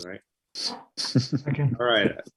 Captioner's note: laughs